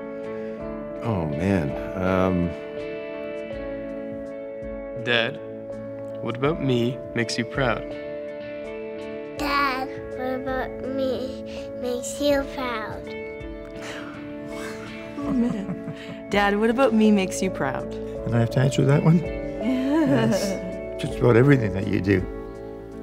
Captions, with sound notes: Oh man, um... Dad, what about me makes you proud? Dad, what about me makes you proud? [phew] Oh man. Dad, what about me makes you proud? I have to answer that one? Just about everything that you do.